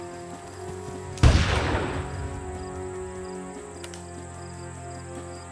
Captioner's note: gunshot booming